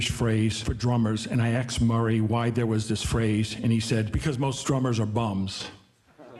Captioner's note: audience laughing